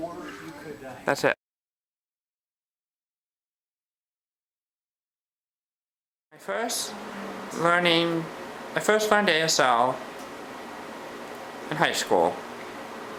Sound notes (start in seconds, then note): 3.4 pause